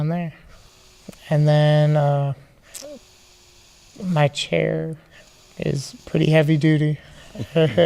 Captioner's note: laughing